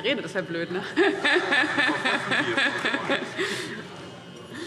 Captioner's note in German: Heiterkeit